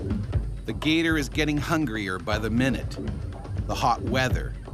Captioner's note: voiceover